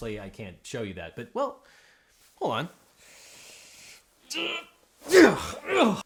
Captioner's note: host grunts